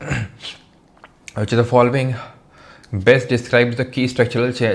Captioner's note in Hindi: गला साफ़ करने की आवाज़